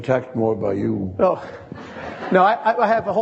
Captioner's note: audience laughing